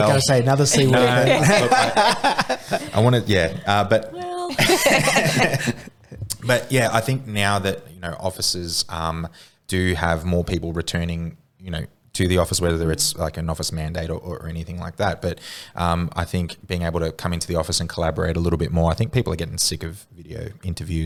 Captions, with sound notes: were gonna say another C word. (laughing) - I wanna, yeah, but- (laughing) - But yeah, I think now that, you know, offices do have more people returning, you know, to the office, whether it's like an office mandate or anything like that. But I think being able to come into the office and collaborate a little bit more, I think people are getting sick of video interviews